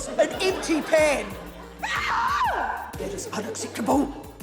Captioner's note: shrieks